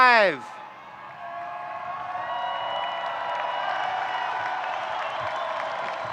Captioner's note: audience cheering and applauding